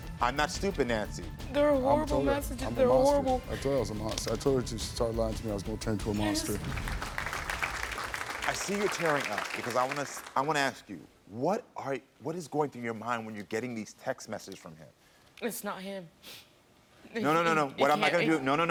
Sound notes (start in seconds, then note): 6.2 audience applauds